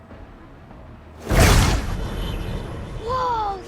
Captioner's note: whoosh